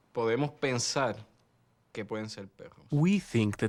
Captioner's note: speaking spanish